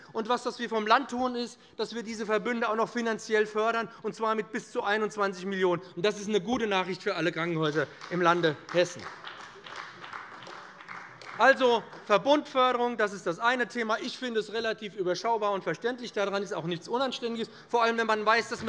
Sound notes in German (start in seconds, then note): 7.6 Beifall bei dem BÜNDNIS 90/DIE GRÜNEN und der CDU